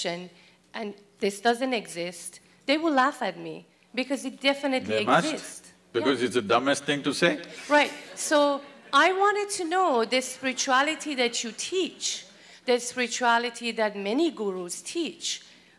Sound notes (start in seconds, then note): 7.8 laughter